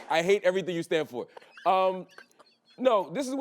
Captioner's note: laughing